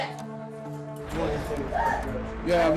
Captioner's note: indistinct chatter